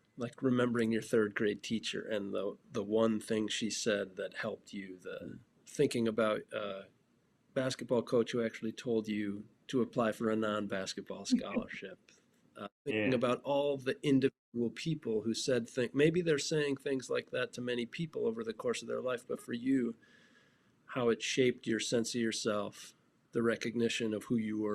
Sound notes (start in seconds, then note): 12.9 laughing